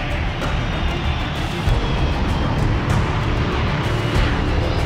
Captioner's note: takeoff sound